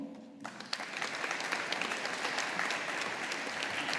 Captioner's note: audience applauding